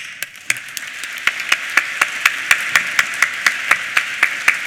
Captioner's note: applause